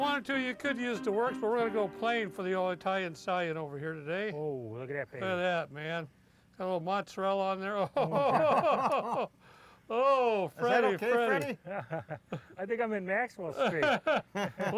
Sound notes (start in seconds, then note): 8.0 group laughing; 13.5 laughter